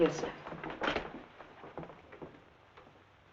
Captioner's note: door rattling; door thumping; footsteps thumping